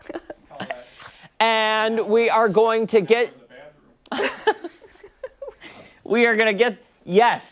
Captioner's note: laughter